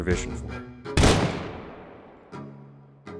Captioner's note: gunshot